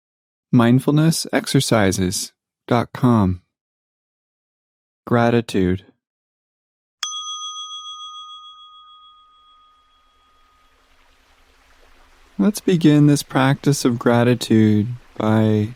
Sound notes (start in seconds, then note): 7.0 bell chimes; 10.2 water gushing